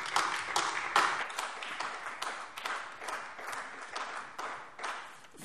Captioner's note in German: Beifall AfD